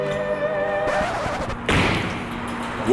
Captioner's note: record scratch